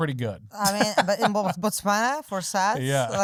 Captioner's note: laughing